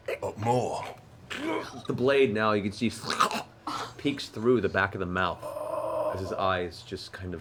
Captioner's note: choking noise